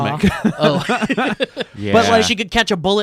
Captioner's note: laughing